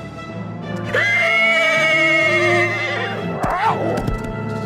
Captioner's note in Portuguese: cavalo relinchando